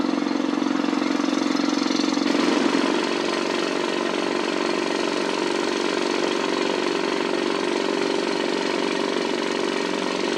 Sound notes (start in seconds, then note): 2.2 drilling